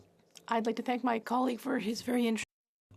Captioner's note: speaking French